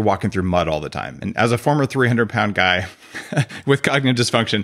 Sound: chuckles

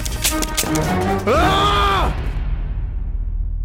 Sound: screams

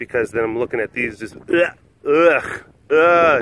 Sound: gagging sounds

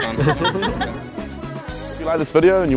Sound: laughter

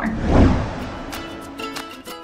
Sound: air whooshing; upbeat guitar music

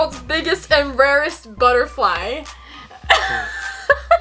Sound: laughs

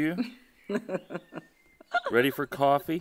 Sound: STUMBLELINA laughs

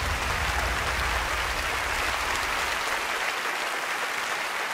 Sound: audience applauding

